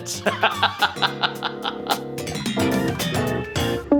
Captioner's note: Patton laughs